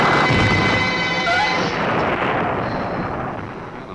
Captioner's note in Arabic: آن تلهث